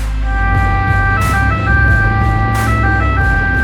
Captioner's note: ambulance siren